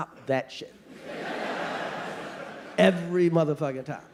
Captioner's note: audience laughing